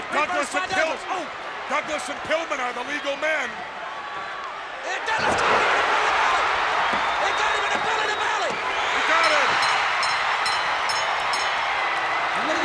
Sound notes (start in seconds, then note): 6.1 audience cheers; 9.1 bell rings; 10.5 audience applauds and cheers